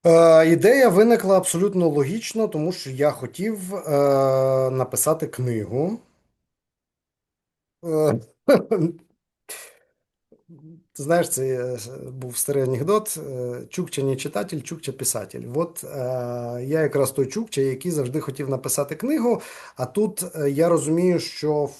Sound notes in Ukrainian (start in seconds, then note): 8.4 сміється